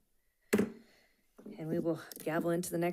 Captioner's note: gavel clacks